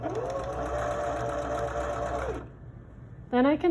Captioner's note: sewing machine hums